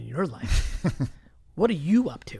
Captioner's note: laughs